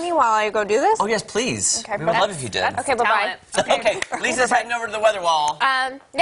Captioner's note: laughter